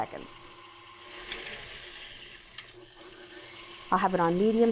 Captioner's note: machine whirs